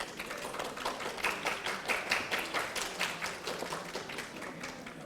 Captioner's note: audience applauding